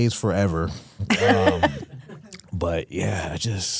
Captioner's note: Stephanie laughs